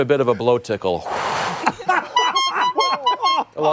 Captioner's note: laughter